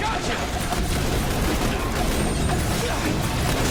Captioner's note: guns firing